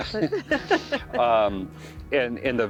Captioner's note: both laughing